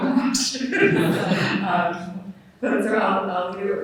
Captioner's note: all laughing